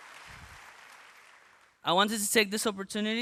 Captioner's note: applause